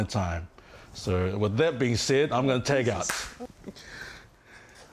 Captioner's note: slap